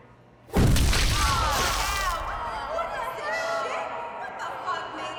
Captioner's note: women yelling